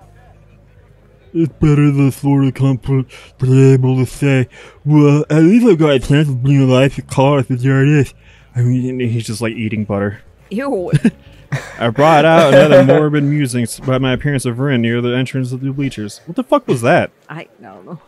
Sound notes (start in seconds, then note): 10.9 chuckles; 11.4 cackles